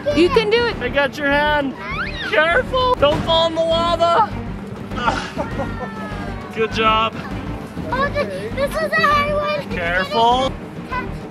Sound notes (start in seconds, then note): 1.8 screams